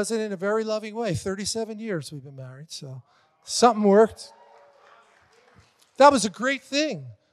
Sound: congregation cheers

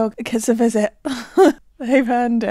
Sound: laughing

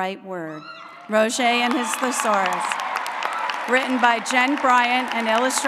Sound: applause

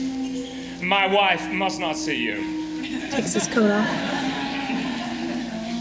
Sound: laughter

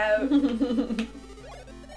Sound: laughter

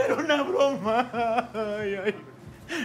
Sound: he cries

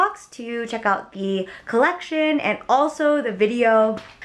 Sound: none

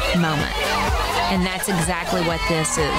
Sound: chattering

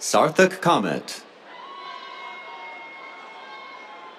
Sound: cheers

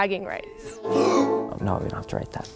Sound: gasp

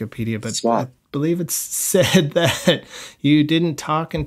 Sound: laughter

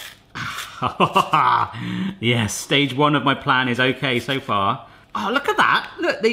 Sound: laughs

